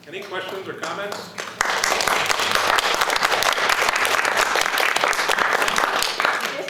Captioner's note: applause